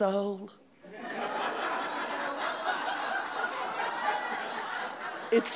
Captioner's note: audience laughing